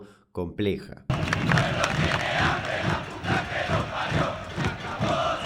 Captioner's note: chanting